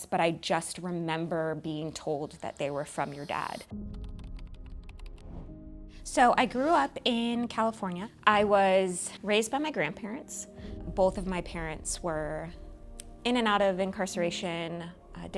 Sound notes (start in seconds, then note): 3.0 dramatic music; 3.8 keyboard clicking